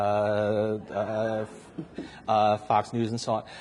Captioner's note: audience laughs